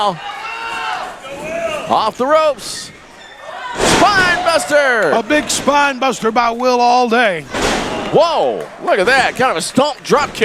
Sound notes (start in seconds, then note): 3.7 body slamming; 7.5 body slamming